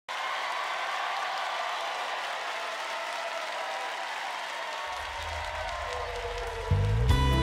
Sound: applause

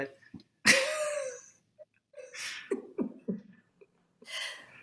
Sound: all laughing

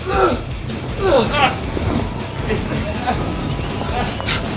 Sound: loud smack; shouting; grunting

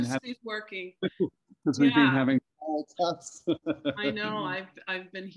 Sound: laughter

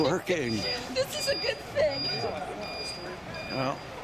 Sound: laughing

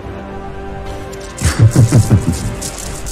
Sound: villain cackles

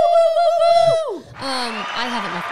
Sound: yelling together

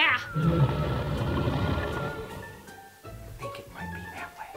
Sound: growling

